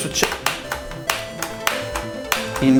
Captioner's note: key pressing noise